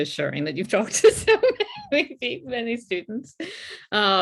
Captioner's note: laughs